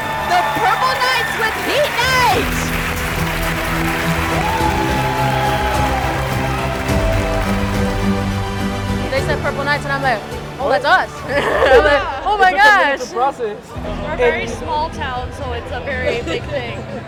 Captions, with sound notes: the Purple Knights with Heat Knight! [crowd cheering] They said Purple Knights and I'm like, "Oh, that's us." -Oh my gosh. -The process. We're a very small town, so it's a very big thing.